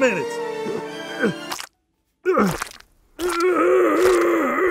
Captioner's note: groaning